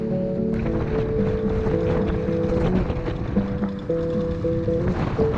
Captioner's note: engine stutters